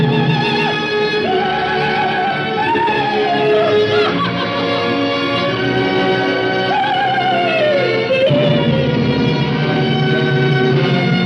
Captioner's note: bursts into anguished weeping and hugs Johnson's head